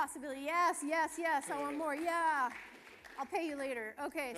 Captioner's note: applause